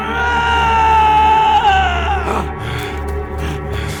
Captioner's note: yelling